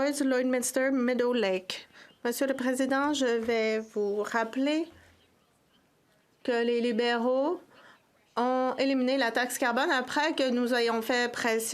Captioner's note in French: voix de l'interprète